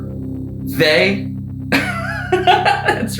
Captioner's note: Vincent laughing